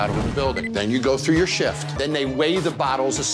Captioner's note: scanner beeping